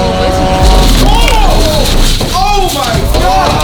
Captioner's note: beeping; beeping